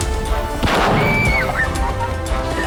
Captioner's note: gun fires